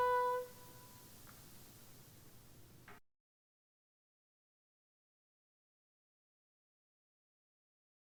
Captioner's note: music stops